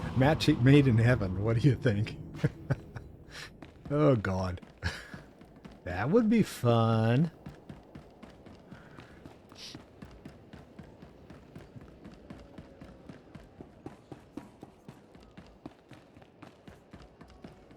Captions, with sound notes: Matching made in heaven, what do you think? (laughs) Oh God. That would be fun. (footsteps)